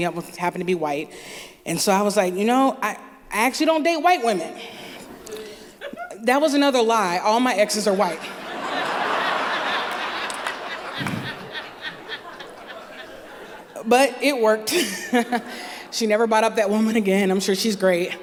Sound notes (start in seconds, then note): 10.3 laughter